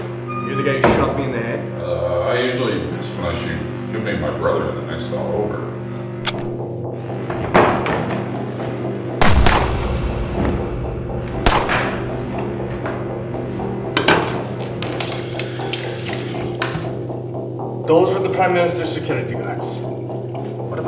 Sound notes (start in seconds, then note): 9.2 gunshots boom; 9.2 suspenseful music